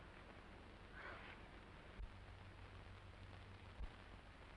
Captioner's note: Esther sighs